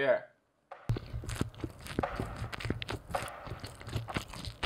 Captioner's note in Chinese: 嚼嚼嚼嚼嚼嚼嚼